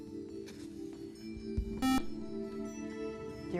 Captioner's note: buzzer